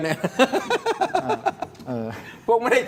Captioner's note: laughter